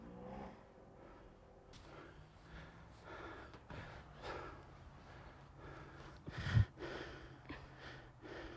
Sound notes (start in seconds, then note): 3.6 Mercer panting